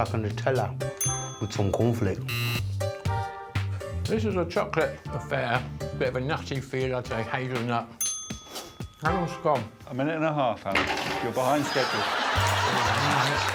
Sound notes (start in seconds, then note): 1.0 dinging; 2.3 buzzing; 8.0 dinging